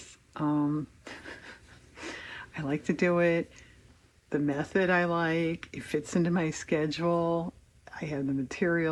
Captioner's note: laughs